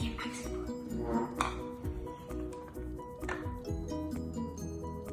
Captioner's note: whispers; clanking; soothing piano music plays